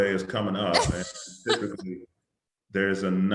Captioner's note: laughs